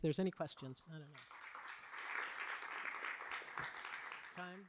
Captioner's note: applause